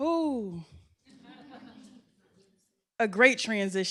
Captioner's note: laughter